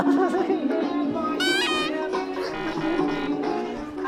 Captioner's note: hurridly